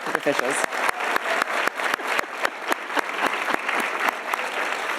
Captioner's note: audience applauding